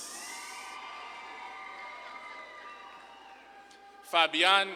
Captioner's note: audience claps and cheers